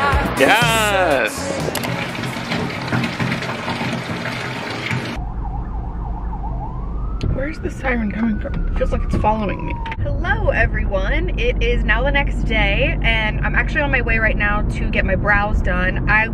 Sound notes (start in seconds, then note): 2.6 water running; 5.1 sirens